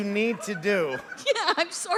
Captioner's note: laughter